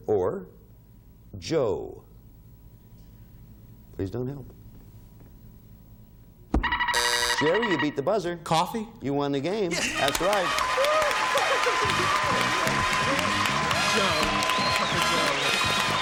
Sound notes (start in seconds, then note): 6.6 timer buzzing; 6.6 buzzer beeping; 9.8 exclaims